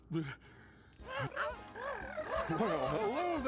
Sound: playful trilling sounds

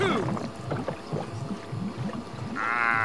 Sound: gurgling

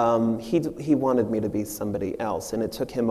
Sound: none

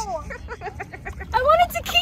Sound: laughing

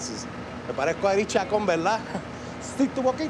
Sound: spanish; spanish

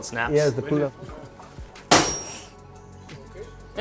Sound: metal clanging

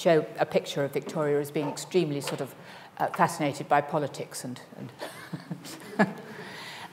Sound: laughs

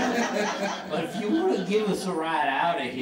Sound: audience laughing

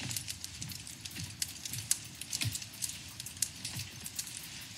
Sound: fireplace crackling

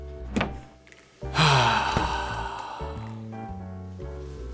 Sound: Dick sighs

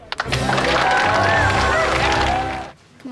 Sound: cheering and applauding

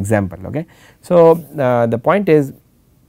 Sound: static

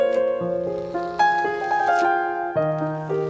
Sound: peeling off masking tape sound

